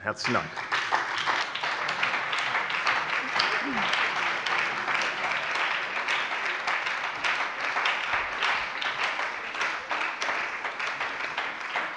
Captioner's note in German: Beifall bei der SPD und der LINKEN